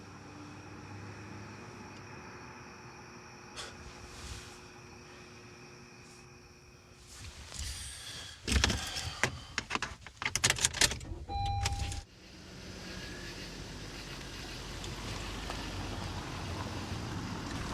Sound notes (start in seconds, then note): 0.0 traffic whirs; 3.5 sighs; 9.6 hand brake clacks; 11.0 car beeps; 12.1 car engine revs